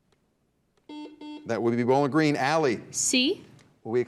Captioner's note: buzzer beeps